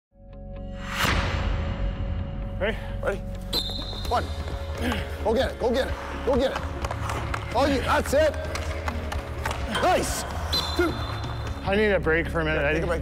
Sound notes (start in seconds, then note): 2.6 male Voice; 3.5 whistle blows; 4.3 male Voice; 9.1 hockey puck hitting crossbar; 10.4 whistle blows